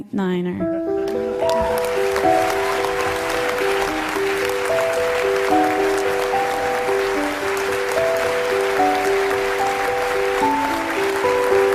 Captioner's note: applause